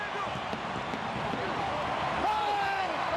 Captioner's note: shouting; fireworks bursting